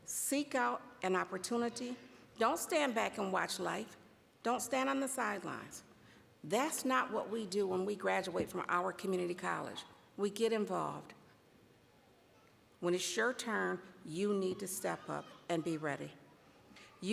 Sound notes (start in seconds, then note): none